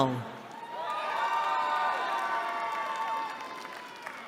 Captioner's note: cheering